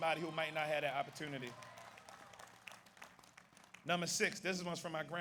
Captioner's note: audience applauds